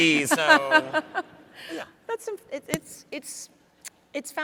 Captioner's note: laughs